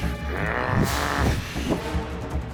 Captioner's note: growling